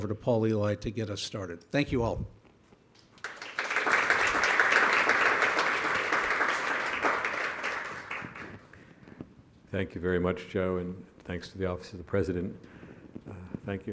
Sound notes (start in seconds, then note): 3.1 audience applauding